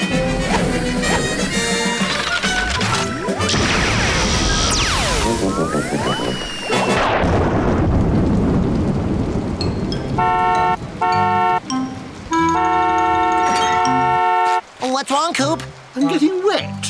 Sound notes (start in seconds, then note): 10.1 honking